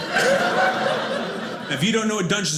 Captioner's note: audience laughing